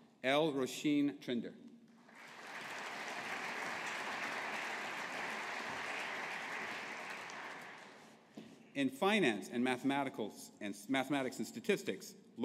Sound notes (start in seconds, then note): 2.1 audience applauding